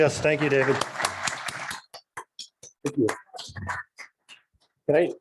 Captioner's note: crowd applauding